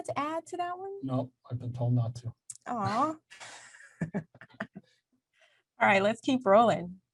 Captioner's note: both chuckle